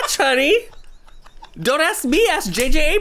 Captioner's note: laughs